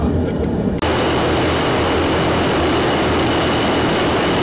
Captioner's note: plane engine roaring